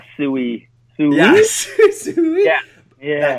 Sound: laughs

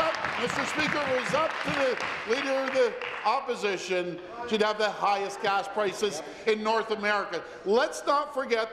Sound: applause

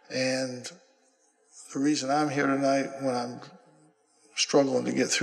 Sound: none

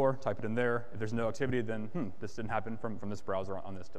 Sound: groans

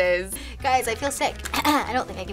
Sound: clears throat

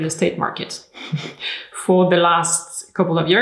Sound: laughs

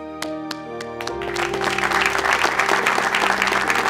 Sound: applause

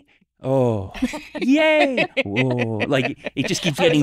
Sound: laugh

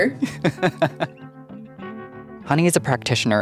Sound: person laughing

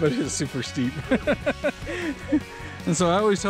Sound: laughs

